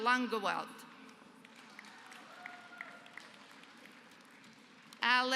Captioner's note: applause